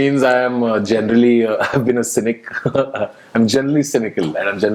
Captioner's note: laughs